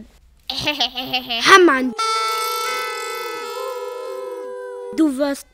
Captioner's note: noisemakers